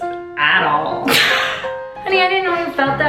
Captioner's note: laughing